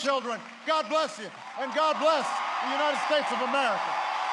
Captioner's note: applause